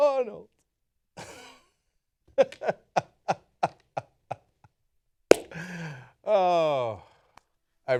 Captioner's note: laughter